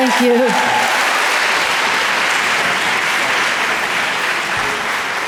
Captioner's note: audience applause